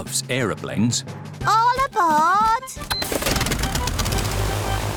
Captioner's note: engines whirring